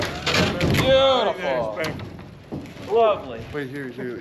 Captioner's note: driver chatters